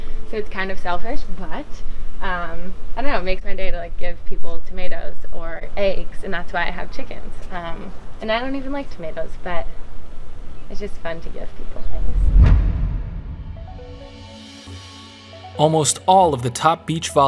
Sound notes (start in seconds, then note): 12.1 audio hit; 13.4 soft music